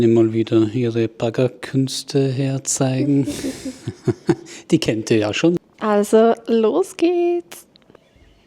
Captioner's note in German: gelächter